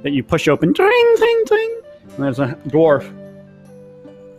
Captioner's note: mimics bell dinging